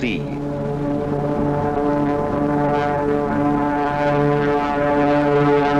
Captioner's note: planes flying overhead